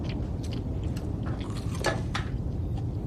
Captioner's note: none